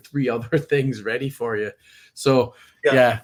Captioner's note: laughs